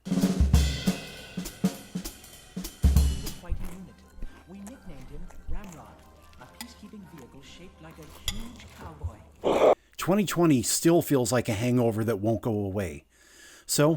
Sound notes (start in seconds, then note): 3.2 cereal crunching; 9.4 demonic roar